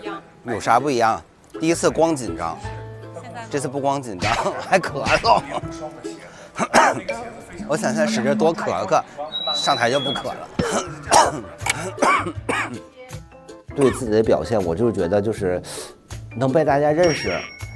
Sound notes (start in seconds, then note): 6.5 nervous and coughing; 10.6 frantically clearing throat and coughing before going on stage